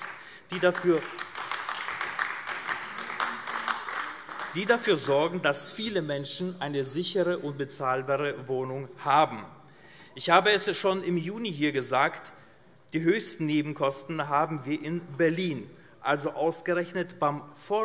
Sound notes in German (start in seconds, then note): 0.0 Beifall AfD